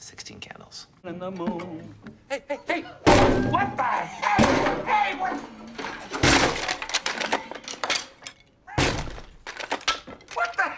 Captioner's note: smashing